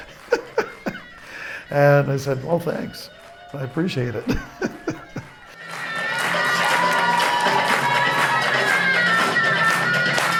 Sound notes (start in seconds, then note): 0.0 laughs